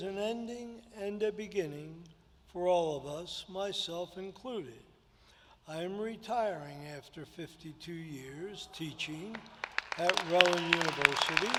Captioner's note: applause